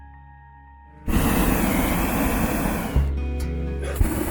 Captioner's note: fire blasting